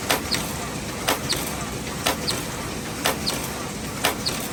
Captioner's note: machine squeaking